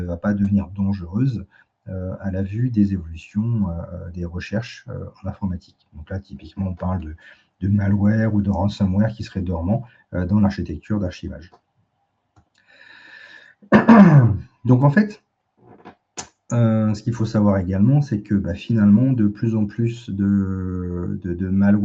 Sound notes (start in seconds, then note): 13.6 toux; 13.7 raclement de gorge